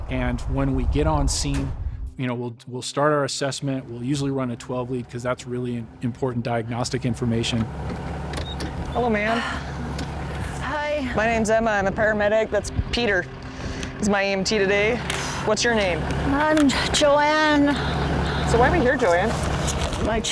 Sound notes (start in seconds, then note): 10.2 panting